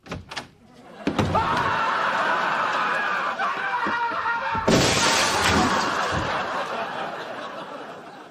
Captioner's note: Newman prolonged scream as laugh track plays